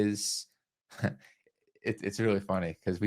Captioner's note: chuckles